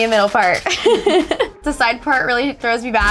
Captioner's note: laughing